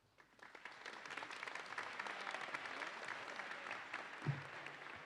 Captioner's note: audience applauding